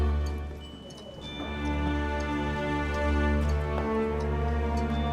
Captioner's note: clock ticking